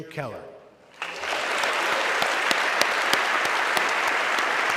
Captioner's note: audience clapping